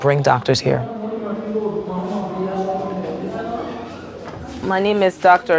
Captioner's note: people chattering